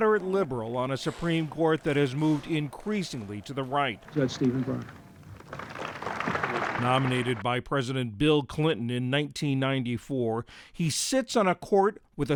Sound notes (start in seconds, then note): 5.2 applause